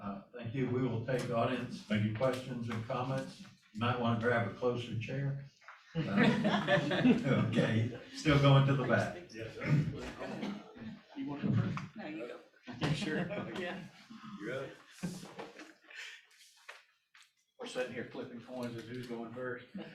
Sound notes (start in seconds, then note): 5.9 laughter